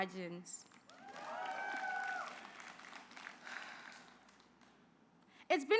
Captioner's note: applause